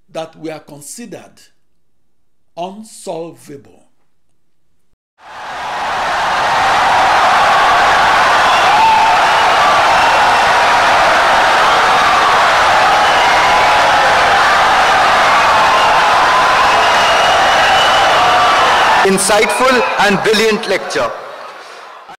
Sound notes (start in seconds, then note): 5.0 wild applause and cheering for 17 seconds